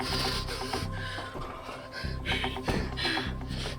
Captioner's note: Eric panting